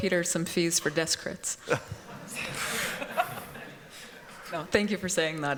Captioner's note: laughter